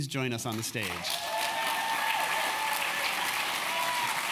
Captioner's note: applause